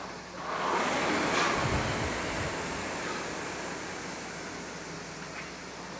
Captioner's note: rowing machine whirring